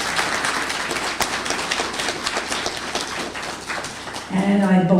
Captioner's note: applause